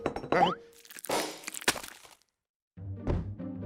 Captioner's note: glass breaks; dog food splats